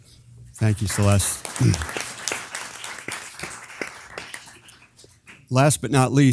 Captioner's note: applause